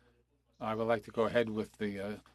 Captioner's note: speaking FRENCH